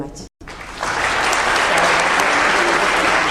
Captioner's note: applause